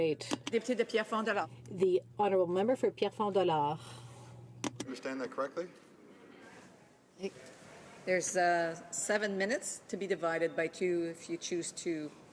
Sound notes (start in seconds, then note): 4.1 speaking French